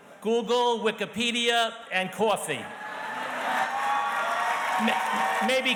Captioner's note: audience cheers and applauds